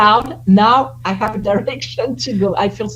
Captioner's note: laughs